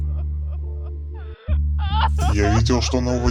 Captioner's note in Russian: женский плач навзрыд